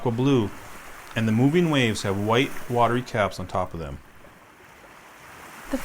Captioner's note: waves